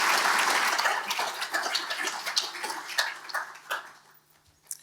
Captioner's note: audience applauds